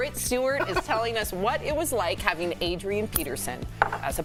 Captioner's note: laughter